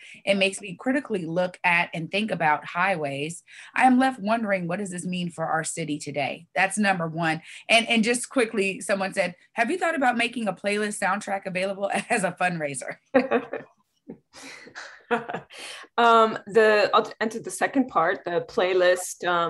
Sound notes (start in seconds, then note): 13.2 laughs